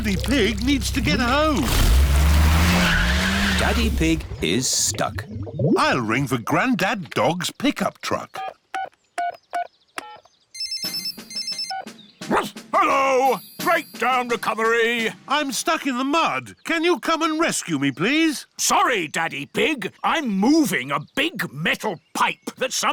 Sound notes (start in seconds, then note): 10.5 phone rings; 12.3 barks